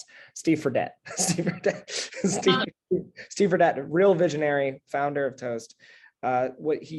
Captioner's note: laugh